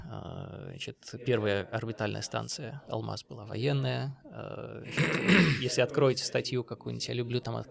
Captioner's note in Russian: кашель; откашливается